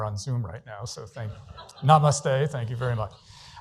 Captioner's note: laughter